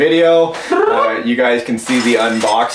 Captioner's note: rolls tongue